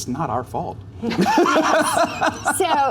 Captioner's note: laughs